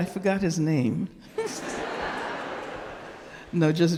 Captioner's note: audience laughing